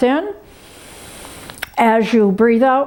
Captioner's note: inhales sharply